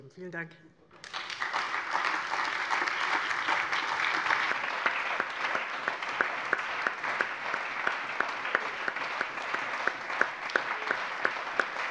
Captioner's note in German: Anhaltender allgemeiner Beifall